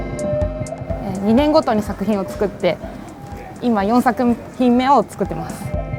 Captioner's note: flute music; speaking in foreign language